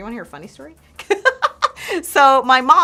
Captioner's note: laughing